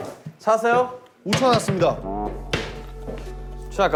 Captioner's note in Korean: 텅텅~